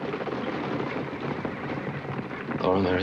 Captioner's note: horses neighing